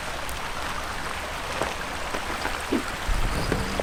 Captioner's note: rocks crunching